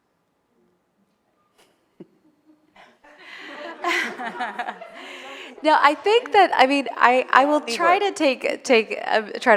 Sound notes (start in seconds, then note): 3.0 attendees laughing; 7.8 speaking faintly